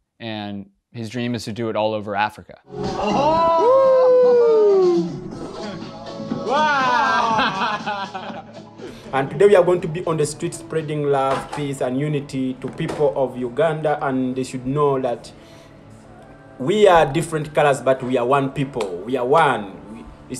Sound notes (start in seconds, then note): 2.9 group cheering